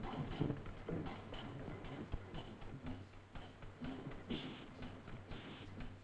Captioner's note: machine whirring